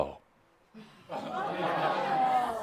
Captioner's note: audience agrees